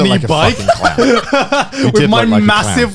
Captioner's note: laughing